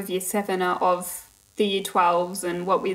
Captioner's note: none